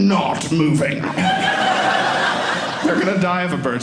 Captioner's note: audience laughing